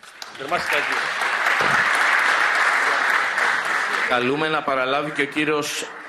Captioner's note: applause